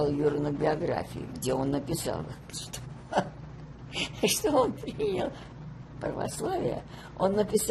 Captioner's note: laughing